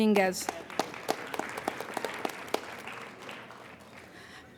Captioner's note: applauding